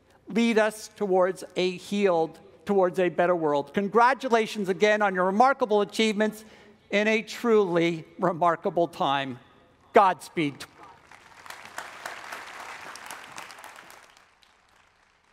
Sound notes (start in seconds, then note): 10.9 audience applauds